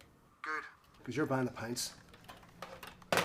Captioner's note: sighs